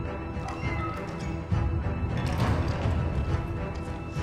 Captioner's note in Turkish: Kapı kapanma sesi